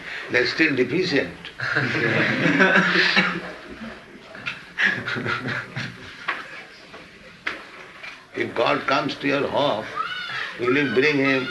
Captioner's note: laughter